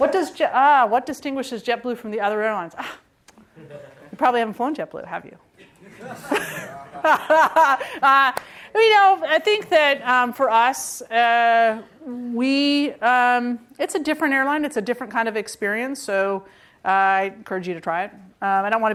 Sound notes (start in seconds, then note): 5.6 laughter